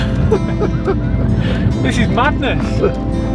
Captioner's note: laughing